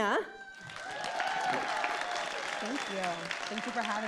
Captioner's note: audience cheering